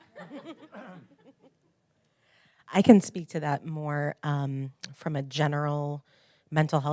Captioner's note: laugh